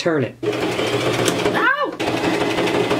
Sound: sewing machine

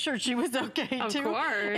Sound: laughter

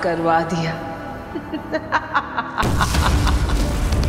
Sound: evil laughter

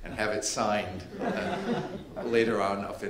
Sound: audience laughing

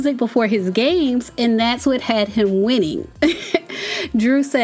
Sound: laughs

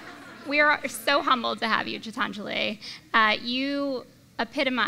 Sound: laughter

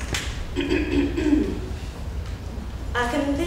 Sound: clears throat

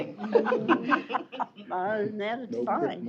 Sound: laughter

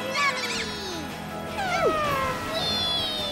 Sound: squeak

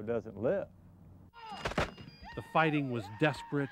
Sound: gunfire

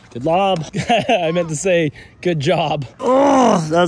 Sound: laughs

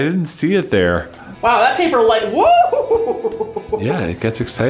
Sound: chuckling

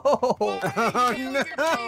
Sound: laughing

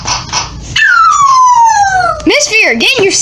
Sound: howling

